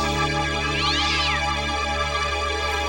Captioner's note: kitten screeches